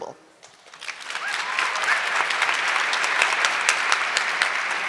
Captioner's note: audience clapping